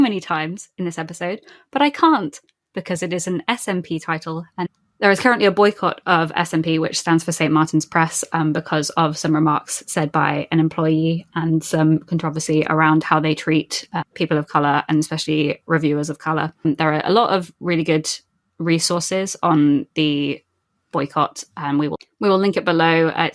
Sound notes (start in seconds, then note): none